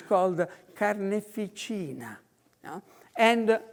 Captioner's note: in foreign language